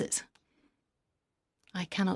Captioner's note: speaking French